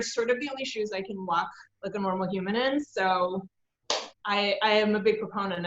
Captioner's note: claps